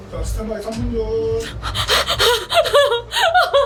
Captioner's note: panting